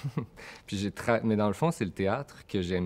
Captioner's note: slight laugh